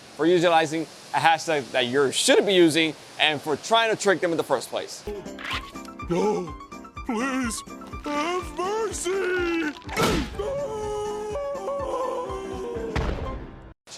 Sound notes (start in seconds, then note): 5.2 cartoon music; 10.0 boom